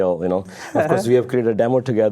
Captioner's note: laughing